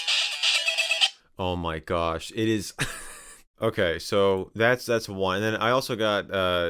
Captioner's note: laughs